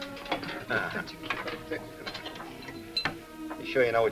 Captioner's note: chuckles